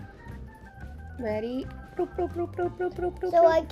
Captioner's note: bloopbloopbloop